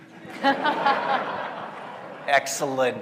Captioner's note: all laughing